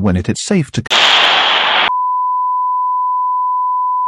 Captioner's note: explosion, long beep